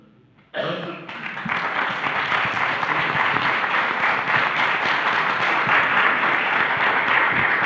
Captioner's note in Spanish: Aplausos